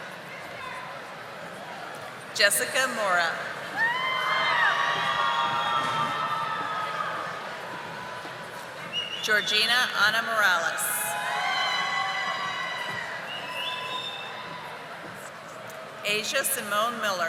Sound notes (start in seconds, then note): 4.4 audience applauding